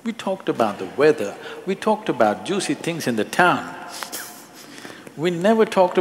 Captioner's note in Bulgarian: смее се